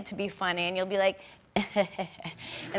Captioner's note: laughs